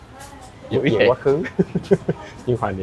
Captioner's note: laughs